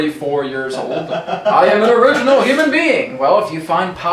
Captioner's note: laughter